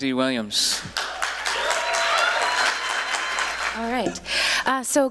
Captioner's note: applause